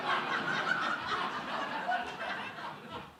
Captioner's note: laughter